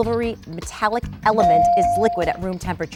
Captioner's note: bell dinging